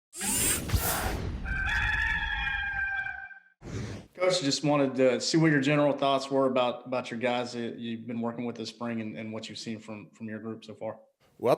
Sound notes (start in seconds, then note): 1.4 rooster crowing